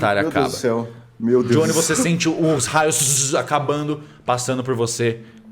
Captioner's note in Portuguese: tzzz